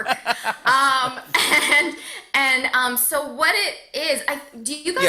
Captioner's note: laughter